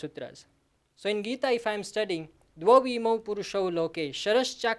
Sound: speaks sanskrit

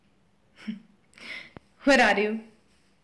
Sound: Linda chuckles

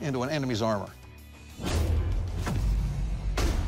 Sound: booming impacts

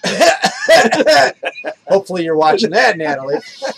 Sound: coughs

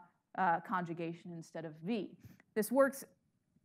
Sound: speaking in foreign language

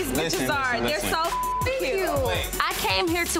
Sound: beep

